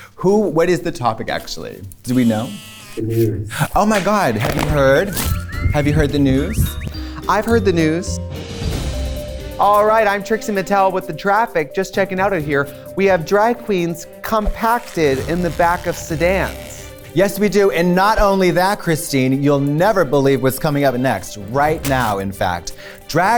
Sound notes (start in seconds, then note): 3.4 gasps